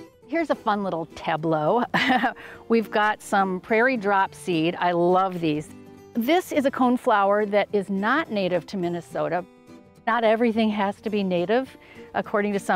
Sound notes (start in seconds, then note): 0.3 upbeat music; 2.2 laughs